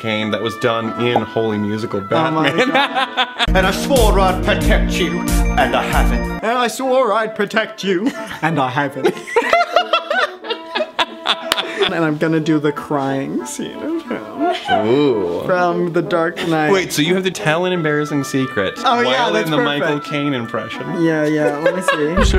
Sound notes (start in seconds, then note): 2.4 laughs; 9.0 both laugh; 13.7 laughs